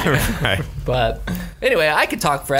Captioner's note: laughs